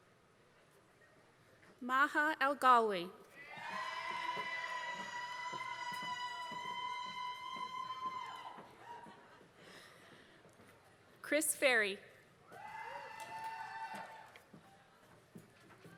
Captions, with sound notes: Maha Algalwi, [APPLAUSE] Chris Perry, [APPLAUSE]